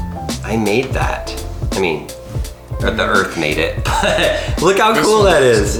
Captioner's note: laughs